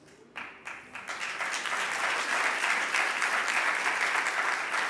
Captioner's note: audience applauding